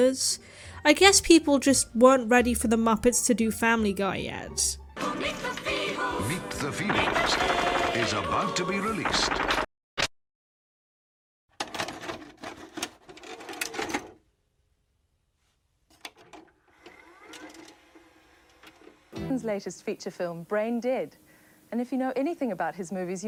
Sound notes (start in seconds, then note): 9.6 VHS tape noises